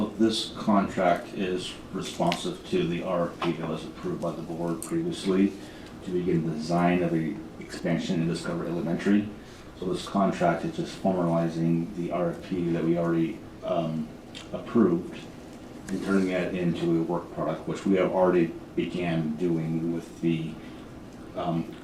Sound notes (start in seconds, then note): none